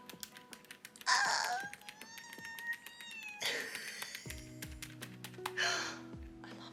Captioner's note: unintelligible screeching due to cuteness overload